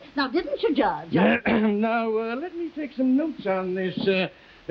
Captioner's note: clears throat